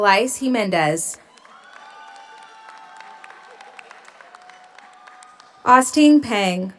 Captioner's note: audience applauds; audience cheers